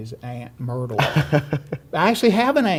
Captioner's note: laughs